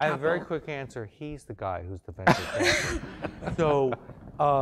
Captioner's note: laugh